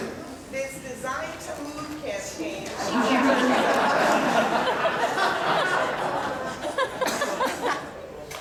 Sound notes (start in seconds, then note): 2.8 laughter